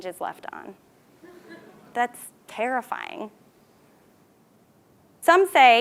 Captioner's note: laugh